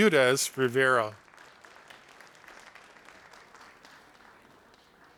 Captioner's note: audience applauding